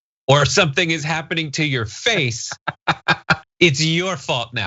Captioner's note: laugh